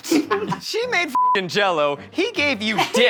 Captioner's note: beeps